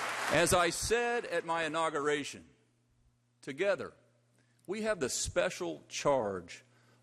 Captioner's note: applause